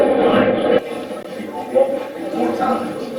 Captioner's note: static playback transmitting